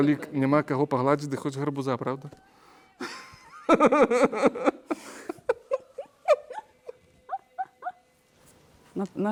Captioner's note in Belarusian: смех